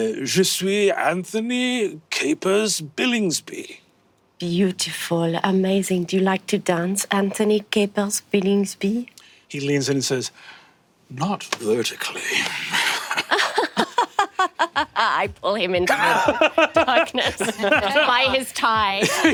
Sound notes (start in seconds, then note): 12.6 chuckles; 13.7 laughs politely